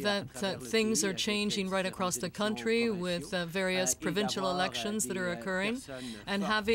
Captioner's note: speaking french